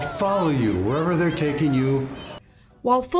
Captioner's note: cries for help